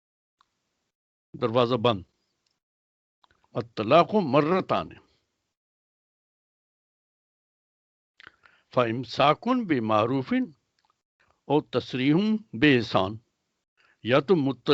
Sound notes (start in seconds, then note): 3.6 speaks in Arabic